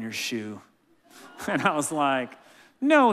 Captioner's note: laughing